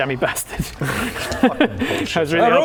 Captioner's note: fluky laughter